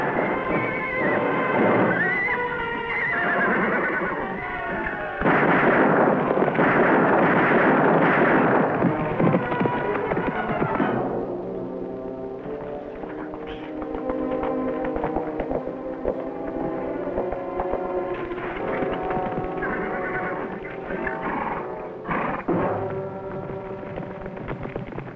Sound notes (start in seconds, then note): 1.7 horse neighing; 4.6 guns firing; 12.8 horse quietly trotting; 19.3 horse nickering